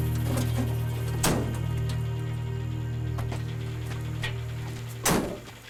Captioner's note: truck door slams